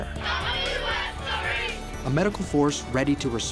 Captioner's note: children calling out in unison